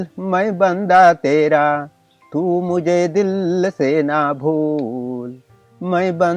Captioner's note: reciting Urdu poetry